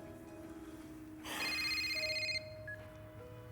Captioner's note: ringing